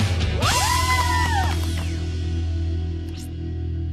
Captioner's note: cheer